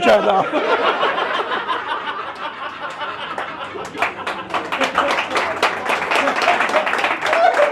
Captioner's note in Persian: خنده